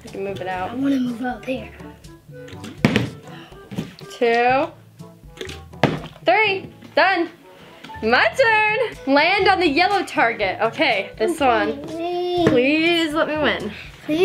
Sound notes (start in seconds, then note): 2.4 bottle landing; 5.3 bottle landing